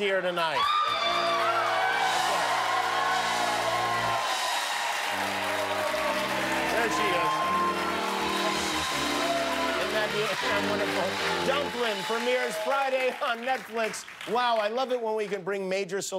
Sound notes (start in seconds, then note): 4.0 cheers and applause